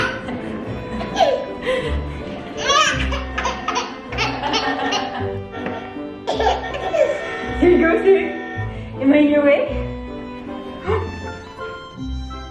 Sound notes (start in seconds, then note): 0.1 laughing; 6.3 honk honk